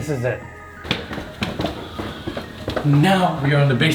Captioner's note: footsteps pattering